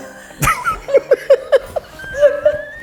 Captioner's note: hearty laughter